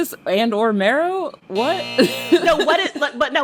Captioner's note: soundbite of buzzer